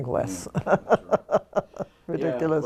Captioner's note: laugh